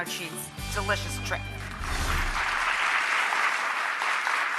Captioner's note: crowd applauds